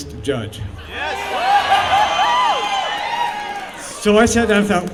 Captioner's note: cheering